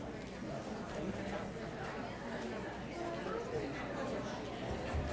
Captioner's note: audience chattering